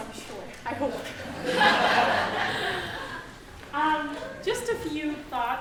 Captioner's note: audience laughing